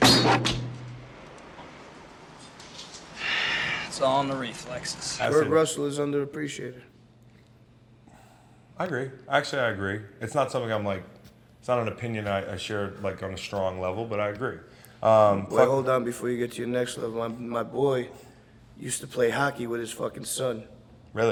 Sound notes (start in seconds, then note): 0.0 knife hitting, whooshing; 3.2 sighs